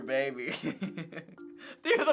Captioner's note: laughing